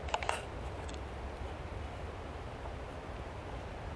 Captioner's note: camera rattling